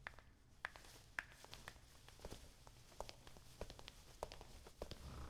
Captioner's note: footsteps